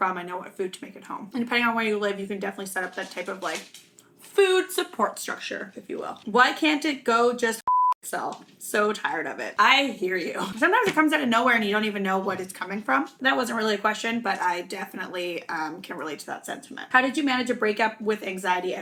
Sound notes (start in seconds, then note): 7.6 beep